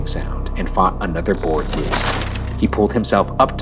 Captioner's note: wood creaking